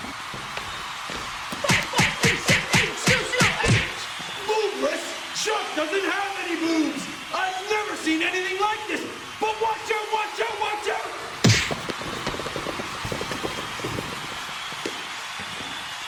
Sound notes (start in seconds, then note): 1.2 punching noises; 11.4 shuffling feet; 11.4 thwack